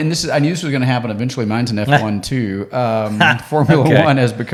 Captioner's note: laughs